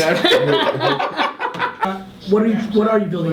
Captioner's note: laughs